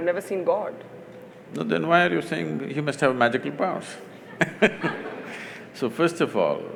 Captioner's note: laughter